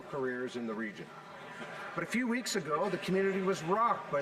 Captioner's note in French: voix de l'interprète